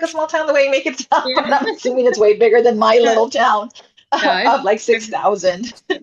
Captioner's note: laughs